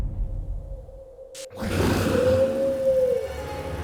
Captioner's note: growls